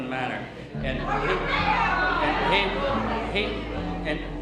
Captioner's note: crowd clamoring